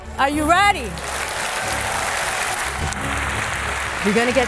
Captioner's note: applause